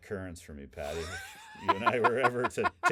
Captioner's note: laughing